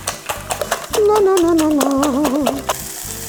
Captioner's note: the grandmother hums